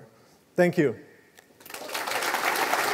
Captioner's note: applause